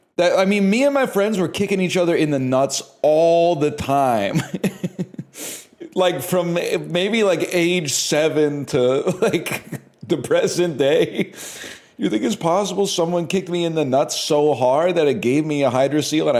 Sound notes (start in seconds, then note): 4.2 chuckles; 9.4 cracks up